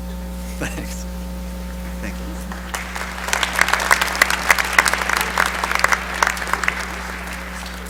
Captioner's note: applause